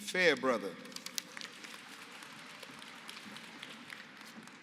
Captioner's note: applause